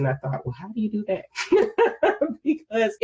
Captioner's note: laughs